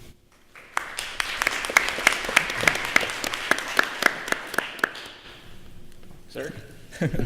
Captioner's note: applause